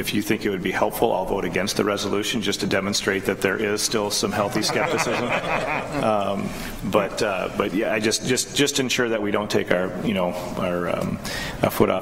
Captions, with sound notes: if you think it would be helpful, I'll vote against the resolution, just to demonstrate that there is still some healthy skepticism, (board members laugh) but just ensure we don't take our foot off the pedal on this